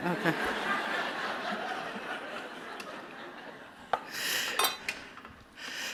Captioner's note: laughter